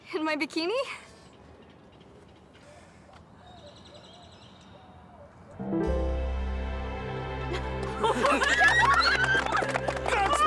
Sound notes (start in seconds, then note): 2.7 birds chirp; 5.5 romantic music; 7.8 friends cheer and clap